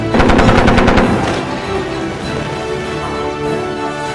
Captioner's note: gun firing; grand orchestral music